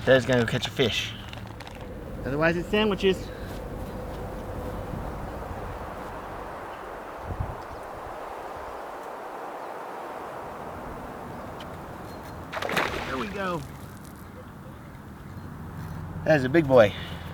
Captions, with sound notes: Daddy's gonna go catch a fish. Otherwise it's sandwiches. (wind blowing) (splashing) There we go. That is a big boy.